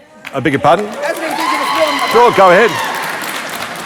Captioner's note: crowd cheering